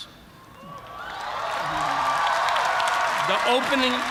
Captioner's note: cheers and applause